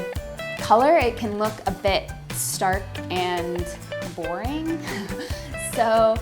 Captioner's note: laughs